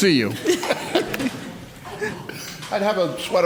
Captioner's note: laughs